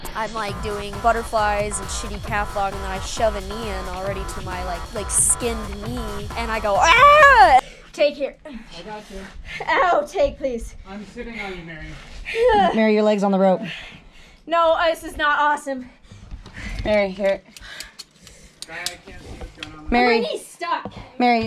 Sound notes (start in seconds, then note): 18.1 carabiner clicking